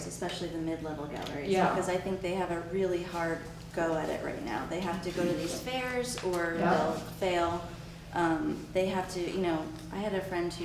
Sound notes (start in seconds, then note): none